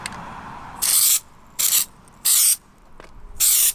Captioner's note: spraying